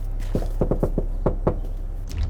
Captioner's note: knocking on the door